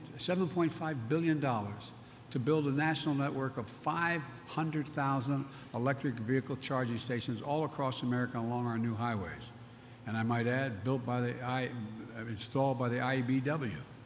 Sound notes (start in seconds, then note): none